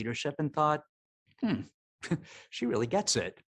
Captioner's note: chuckling